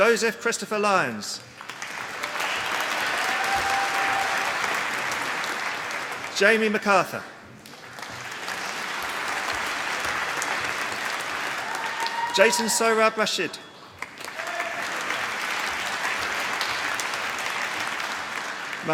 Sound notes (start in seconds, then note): 1.4 applause